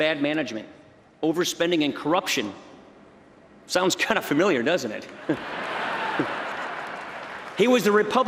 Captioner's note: laughter